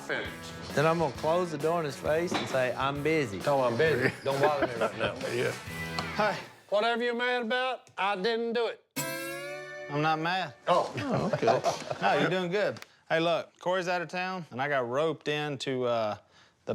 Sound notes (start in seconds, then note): 4.6 laughs; 10.9 laughs